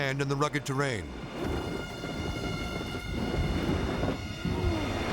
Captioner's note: plane rumbling